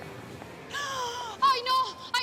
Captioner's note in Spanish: Grito ahogado